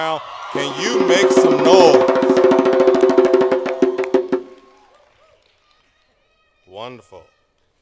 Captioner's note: cheering